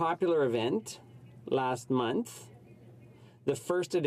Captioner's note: speaking French